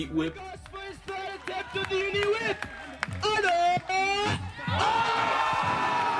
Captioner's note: announcer speaks foreign language; crowd cheering